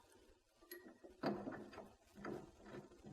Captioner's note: none